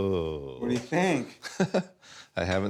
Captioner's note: laughs